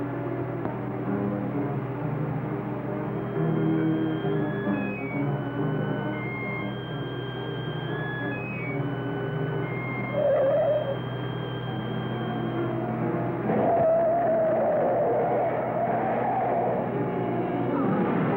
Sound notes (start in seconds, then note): 3.3 eerie music; 9.9 tires squealing